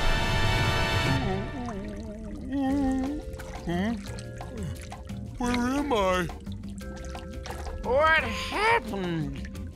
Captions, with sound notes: [groaning] Hmm? Where am I? What happened?